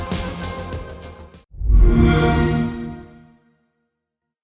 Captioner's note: XBOX sound